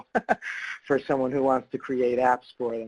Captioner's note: laughs